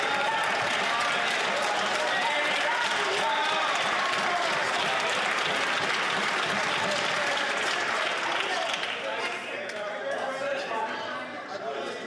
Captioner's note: some Applause